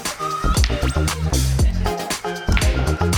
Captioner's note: people laughing; lively music continues